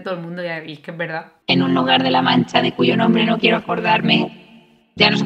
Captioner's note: quotes "el quijote" high pitched